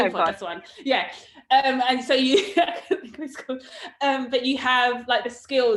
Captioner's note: laughs